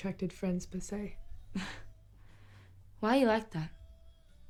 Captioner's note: gasps